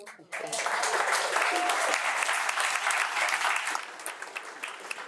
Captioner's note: audience applauding